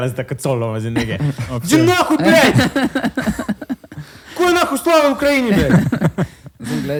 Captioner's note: shouting in russian